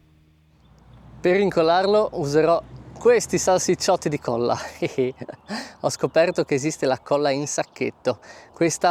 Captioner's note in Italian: risate